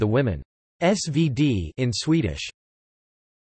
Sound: in Swedish

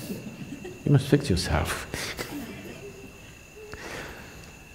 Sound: laughs

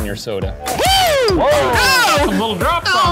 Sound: both shout; pops

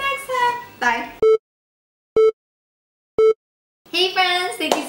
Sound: beeping

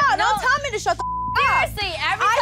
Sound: beep

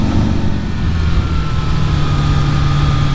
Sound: none

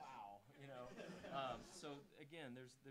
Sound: audience laughing

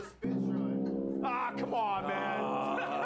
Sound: sound of plane falling

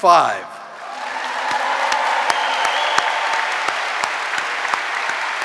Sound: audience applauding

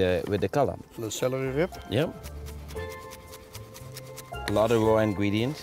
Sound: chopping

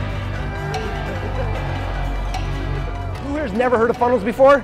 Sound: cheering

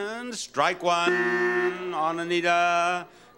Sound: buzzer blaring

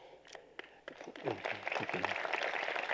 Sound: applause

